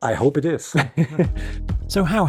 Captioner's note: chuckles